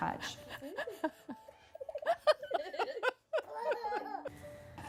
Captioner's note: laughter